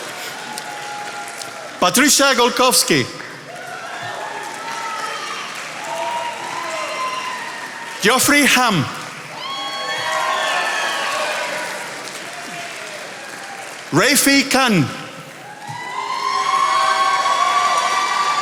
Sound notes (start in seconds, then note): 4.0 attendees applauding; 9.7 attendees applauding; 15.4 attendees applauding